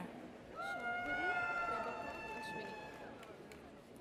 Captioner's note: audience cheers